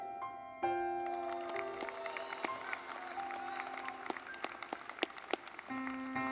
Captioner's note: gentle music; audience clapping